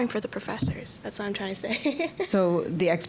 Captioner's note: laughing